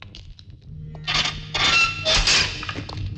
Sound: door creaks

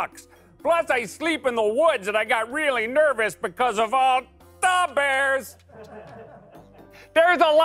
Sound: laughter

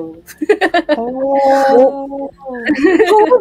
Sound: laughing

